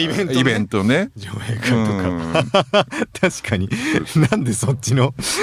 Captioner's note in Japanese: 笑い